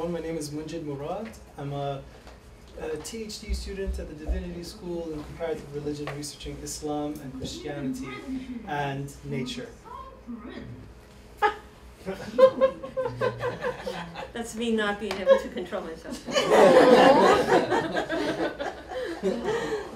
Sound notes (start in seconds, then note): 12.0 chuckling; 16.0 laughter